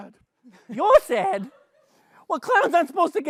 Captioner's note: new york accent